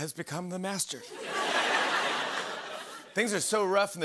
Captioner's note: laughter